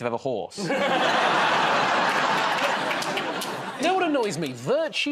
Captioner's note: laughter